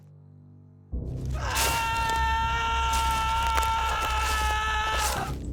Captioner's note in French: Hurlements